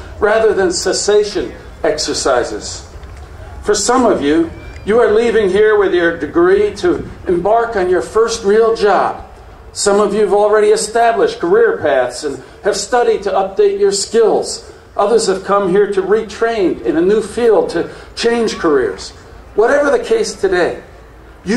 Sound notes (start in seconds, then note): none